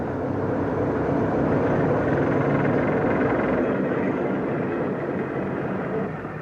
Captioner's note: train passes